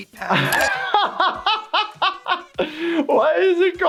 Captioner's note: laughs